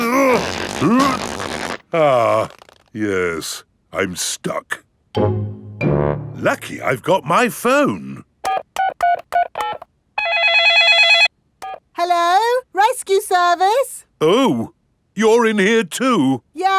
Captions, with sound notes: (GRUNTING) Ah... Yes, I'm stuck. Lucky I've got my phone! (DIALING) (CELL PHONE RINGING) Hello, rescue service. Oh. You're in here too.